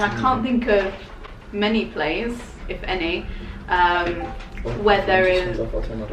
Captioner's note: phone bleeps